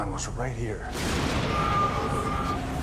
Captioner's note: Flash, yelling